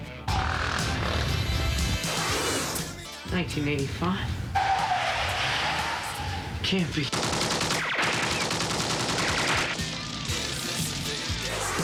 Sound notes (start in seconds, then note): 0.2 engine revs; 4.5 tires squealing